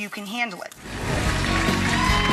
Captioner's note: whooshing; audience applauding